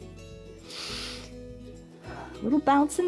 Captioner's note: inhales and exhales